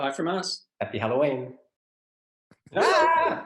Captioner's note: both GASP!